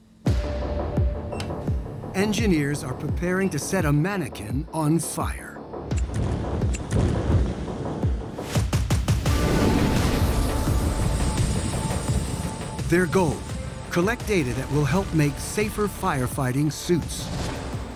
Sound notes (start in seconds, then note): 5.6 igniting; 9.2 flames roaring